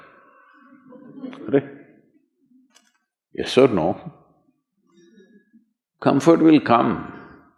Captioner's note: laughter